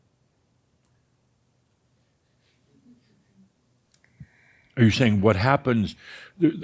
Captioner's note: slight pause